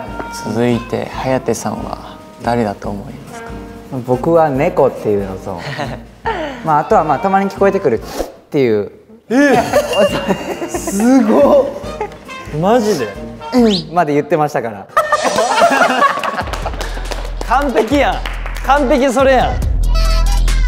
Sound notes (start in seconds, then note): 9.2 sniffle